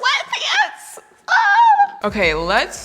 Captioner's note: groans; soft instrumental